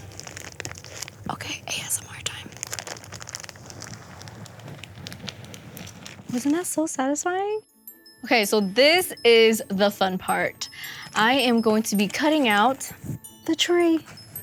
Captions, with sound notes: (paper ripping) Okay, ASMR time. (paper peeling) Wasn't that so satisfying? Okay so this is the fun part. I am going to be cutting out the tree.